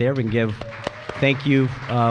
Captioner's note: applause